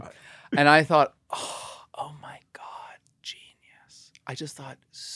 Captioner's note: gasps